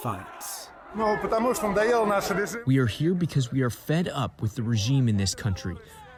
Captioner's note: through translator